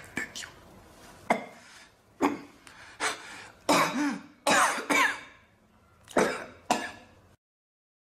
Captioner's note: as if he is coughing….choking